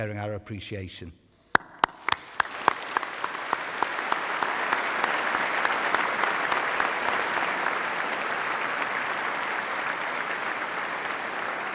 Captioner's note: applause